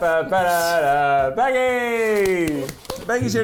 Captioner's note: clapping